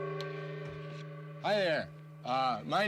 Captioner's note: gong rings